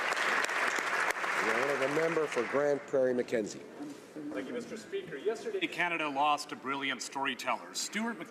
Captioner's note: applause